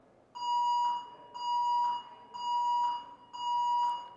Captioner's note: siren beeping